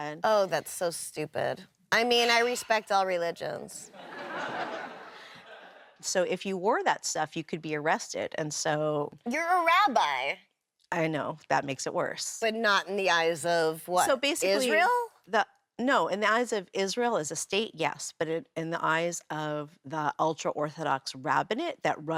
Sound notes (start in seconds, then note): 3.9 audience laughs